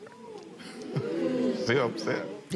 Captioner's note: audience murmurs